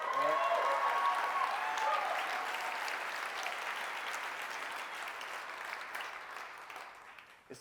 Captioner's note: applause